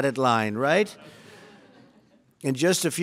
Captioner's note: laughter